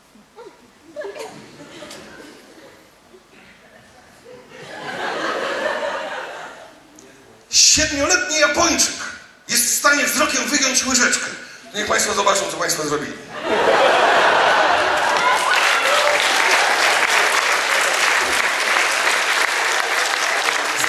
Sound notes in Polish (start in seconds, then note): 3.7 śmiech; 13.3 śmiech; 14.7 oklaski